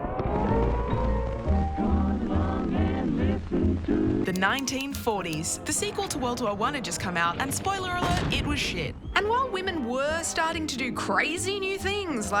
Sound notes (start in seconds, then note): 0.0 sirens; 1.9 vintage singing